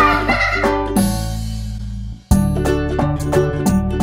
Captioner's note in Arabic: أطفال يضحكون